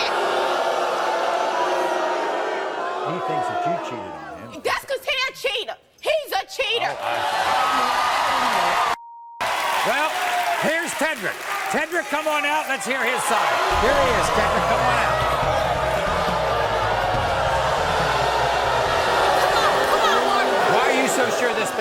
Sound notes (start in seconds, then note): 0.0 audience booing; 7.2 audience cheering; 13.3 audience screaming; 15.9 audience booing